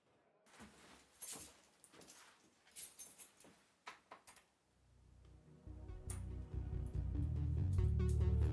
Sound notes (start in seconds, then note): 1.1 keys jingling; 5.3 ominous tempo music